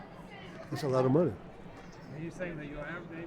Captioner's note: voiceover